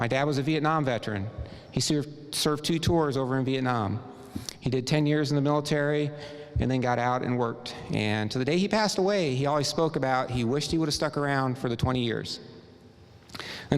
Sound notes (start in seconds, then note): none